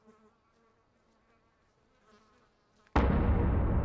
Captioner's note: flies buzzing; ominous music